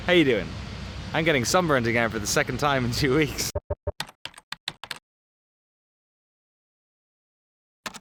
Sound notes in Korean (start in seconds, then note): 3.5 뚜뚜뚜; 3.6 키보드 두드리는 소리